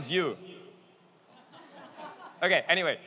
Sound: laughing

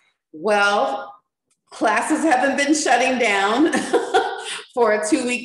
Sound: laughs

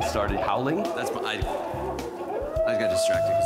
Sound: stammers

